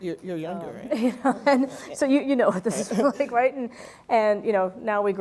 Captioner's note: laugh